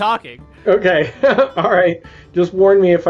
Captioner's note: laughs